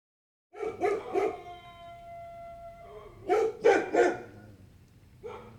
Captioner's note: dogs barking and howling